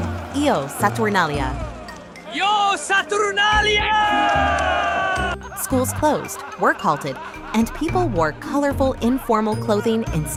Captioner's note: man shouts